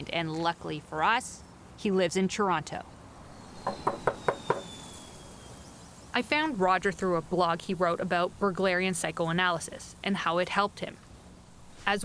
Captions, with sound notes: and luckily for us, he lives in Toronto. (Knocking at door) I found Roger through a blog he wrote about Berglerian psychoanalysis, and how it helped him.